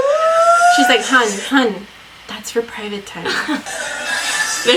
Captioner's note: laughs